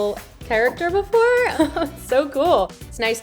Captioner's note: laughs